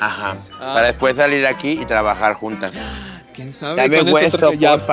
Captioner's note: gasp